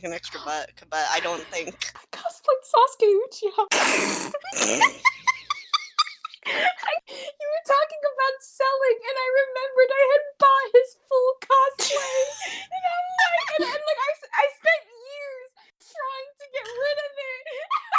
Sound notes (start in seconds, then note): 3.7 snort; 4.8 squeaky laughter